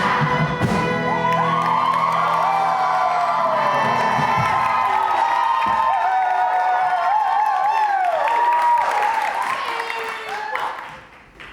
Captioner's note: audience cheers